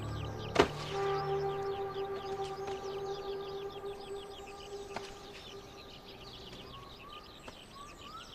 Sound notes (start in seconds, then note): 0.9 thud of the chick; 1.9 soft dramatic music